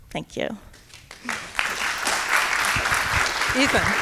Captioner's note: audience clapping